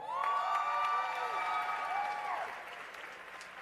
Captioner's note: cheers and applause